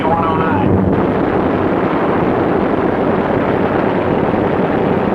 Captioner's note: plane exploding